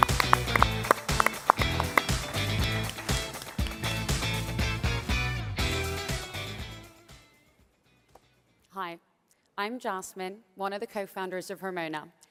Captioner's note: applause